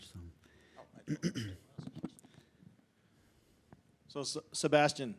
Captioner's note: clears throat